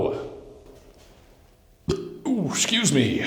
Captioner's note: burps